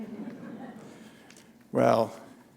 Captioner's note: chuckle